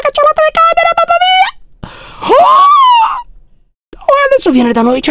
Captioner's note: frightened little scream